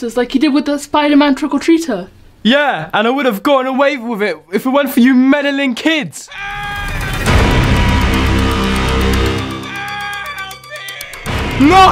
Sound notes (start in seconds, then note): 6.3 distant person screaming; 6.4 dramatic orchestral music; 9.7 distant screaming person